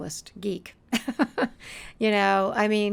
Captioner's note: chuckling